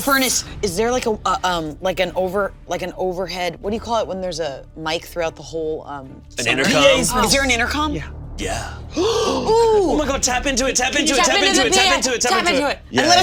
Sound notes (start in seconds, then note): 8.8 all gasping